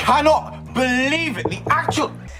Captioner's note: knocking